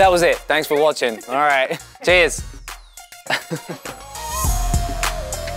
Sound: laughs

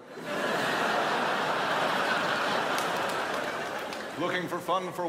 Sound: crowd laughs

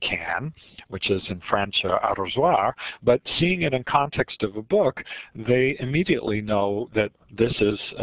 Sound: French spoken

